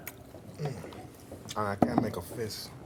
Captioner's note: Vargas grunts painfully; drink pitcher thuds